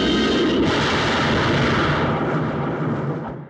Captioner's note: crash